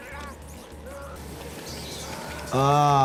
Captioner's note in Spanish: Jess gimiendo; Rata chillando